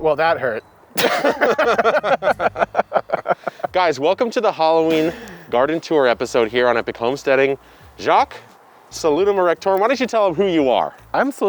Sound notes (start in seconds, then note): 1.0 characters laughing